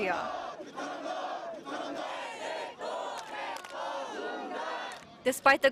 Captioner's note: sound of protests